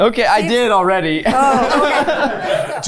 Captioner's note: chuckling; crew members chuckling